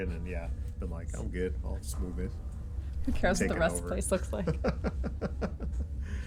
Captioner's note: laughs